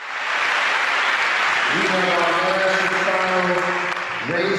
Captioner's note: audience applauding